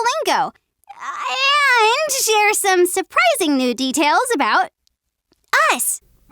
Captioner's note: winces